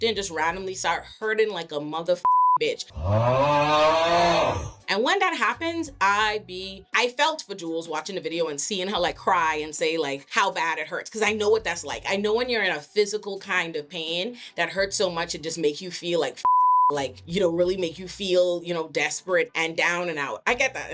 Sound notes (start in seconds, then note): 2.9 groaning